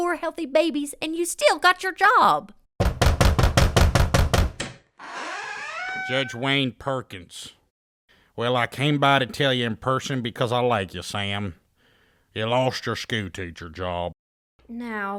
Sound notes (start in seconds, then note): 2.8 knock at door; 5.0 door opening